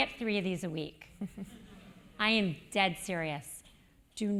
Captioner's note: laugh